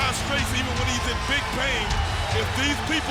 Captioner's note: audience cheering